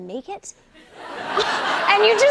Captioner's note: laughter